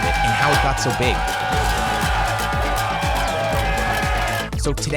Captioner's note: cheering